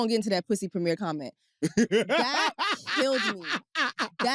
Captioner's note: laughs